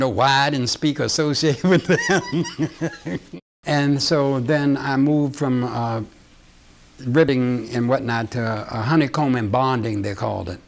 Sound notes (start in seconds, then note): 1.6 laughing